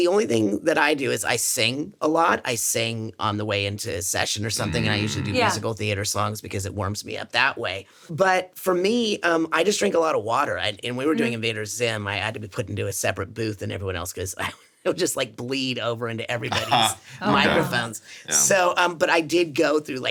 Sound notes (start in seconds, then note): 16.4 chuckles; 16.4 SungWon laughs